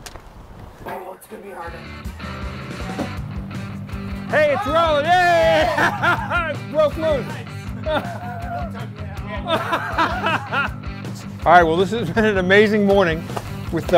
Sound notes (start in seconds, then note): 1.3 upbeat rock music; 5.5 laughs